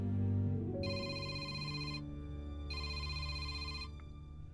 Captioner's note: phone ringing